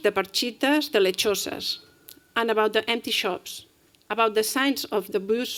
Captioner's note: spanish